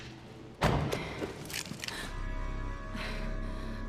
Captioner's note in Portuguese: respirando pesado